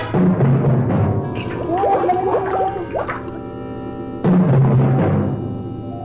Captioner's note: groaning